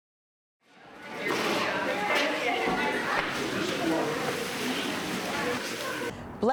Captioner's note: group chatter